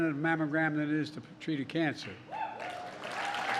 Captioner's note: applause